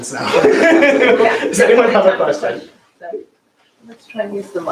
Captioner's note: laughs